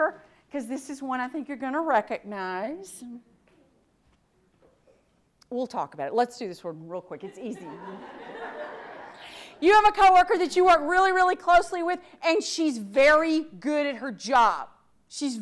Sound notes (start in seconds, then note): 7.4 audience laughs